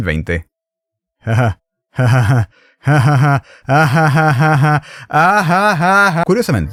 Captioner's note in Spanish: risa cada vez más pesada